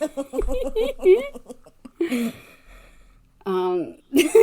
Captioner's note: laugh